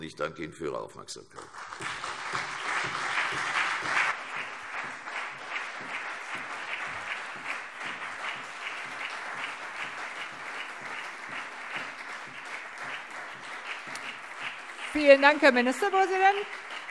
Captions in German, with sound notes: - Ich danke Ihnen für Ihre Aufmerksamkeit. [Beifall CDU und BÜNDNIS 90/DIE GRÜNEN] Vielen Dank, Herr Ministerpräsident.